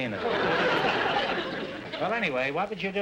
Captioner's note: audience laughter